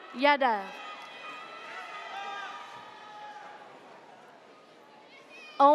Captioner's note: audience cheers